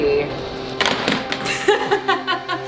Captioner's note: intense dramatic music; dowsing rods clatter; laughs